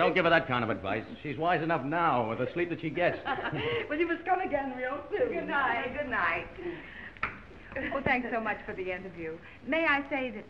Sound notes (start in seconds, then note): 3.4 aunt laughing